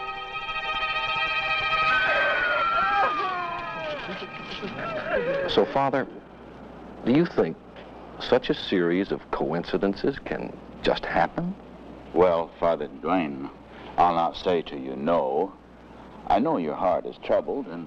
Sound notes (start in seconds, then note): 1.8 girl screaming